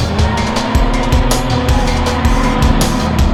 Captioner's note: wind blowing; engine revs